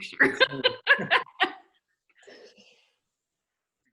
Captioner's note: laughs